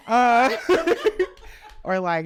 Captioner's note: all laughing